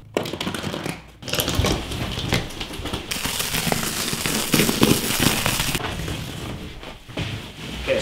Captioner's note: knife cutting sounds